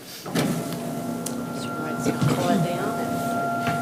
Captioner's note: lift whirring